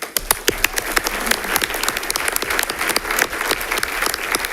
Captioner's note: audience applauding